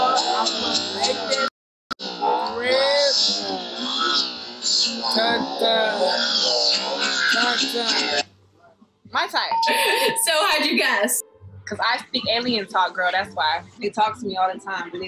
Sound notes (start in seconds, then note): 9.5 ding; 9.6 laughs